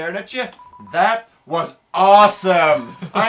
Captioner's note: chuckles